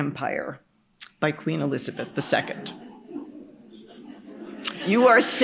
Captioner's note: laughter